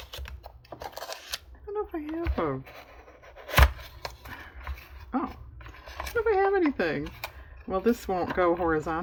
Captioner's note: sarcastically